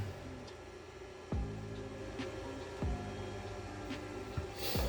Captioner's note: Kool Glide humming